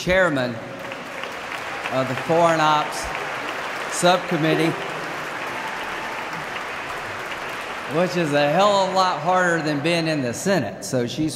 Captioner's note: applause